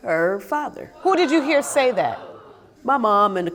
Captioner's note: audience gasp